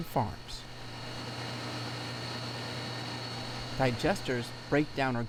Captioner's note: machine whirring